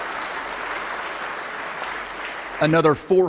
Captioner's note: applause